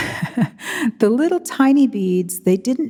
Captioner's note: chuckles